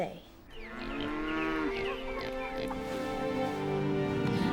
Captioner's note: cows mooing